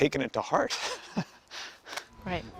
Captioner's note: laughs